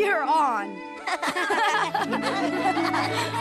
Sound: laughter

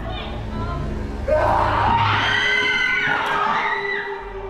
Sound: roars and screams

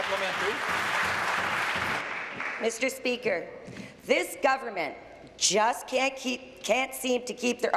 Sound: applause

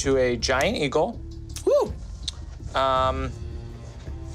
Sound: shouts

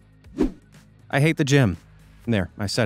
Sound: swoosh

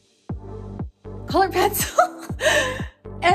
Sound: laughs

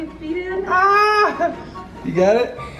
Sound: dad exclaims

